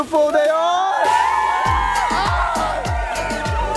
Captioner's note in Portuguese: Gritos